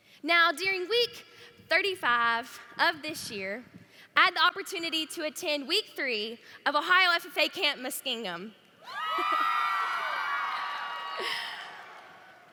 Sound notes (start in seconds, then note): 8.8 cheering